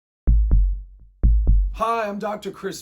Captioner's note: heart beating